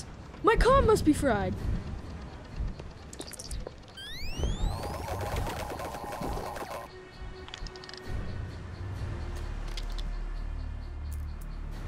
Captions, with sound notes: My comm must be fried. [Electronic scrambling]